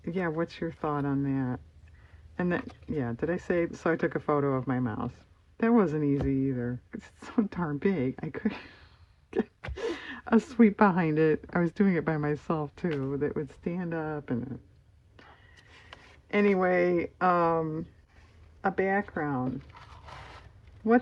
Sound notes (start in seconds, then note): 6.6 laughs